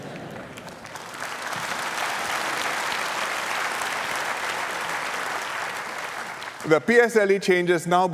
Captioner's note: laughter and applause